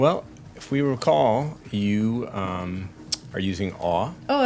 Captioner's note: none